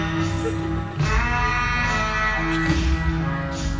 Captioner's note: woman laughs